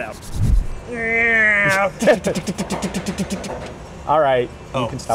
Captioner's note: airplane noises